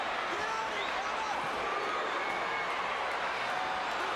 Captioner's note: crowd chattering